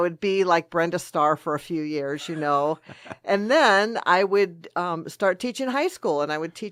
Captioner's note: both laugh